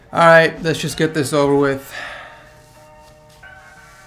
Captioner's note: sigh of disappointment